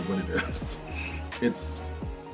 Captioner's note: chuckles